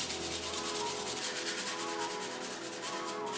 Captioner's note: rubbing